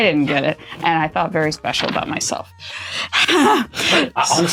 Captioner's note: desperate exhalation